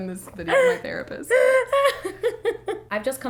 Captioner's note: laughing